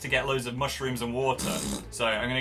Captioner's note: blows raspberry